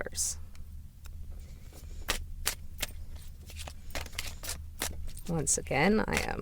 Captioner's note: shuffling sounds